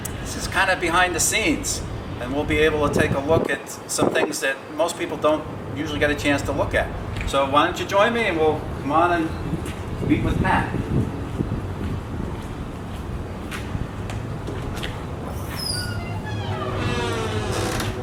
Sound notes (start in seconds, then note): 15.2 door opening